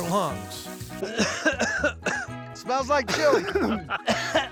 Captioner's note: coughing